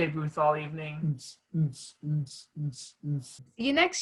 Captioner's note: mild beatboxing